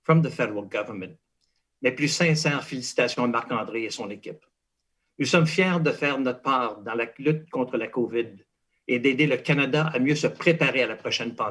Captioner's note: speaking in French